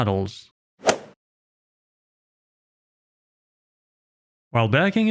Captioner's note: golf ball hit sound effect